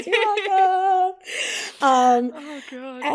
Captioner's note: laughs